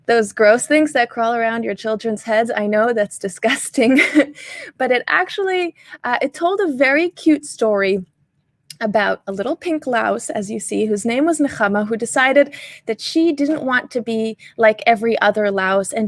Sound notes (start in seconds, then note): 3.8 chuckles